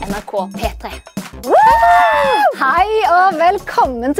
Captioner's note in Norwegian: Jubel